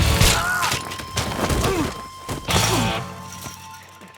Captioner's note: biker gasps; biker shouts